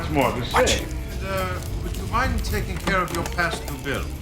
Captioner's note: whispering